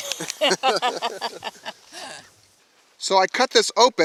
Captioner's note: laughing